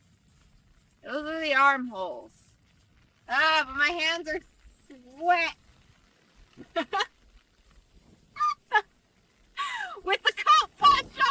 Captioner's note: laughs